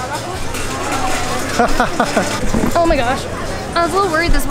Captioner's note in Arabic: يضحك